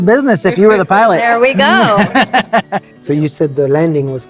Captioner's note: laughing